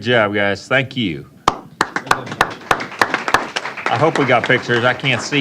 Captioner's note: applause